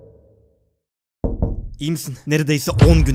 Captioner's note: knock knock